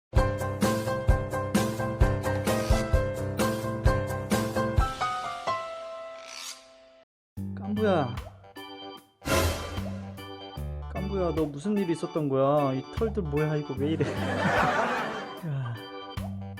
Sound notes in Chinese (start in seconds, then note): 13.9 笑声